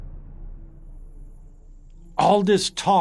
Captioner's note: drums; chanting